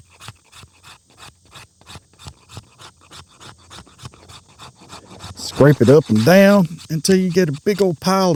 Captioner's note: scraping